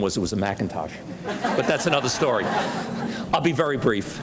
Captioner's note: audience laughs